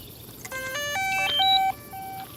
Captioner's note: crickets; drone powering on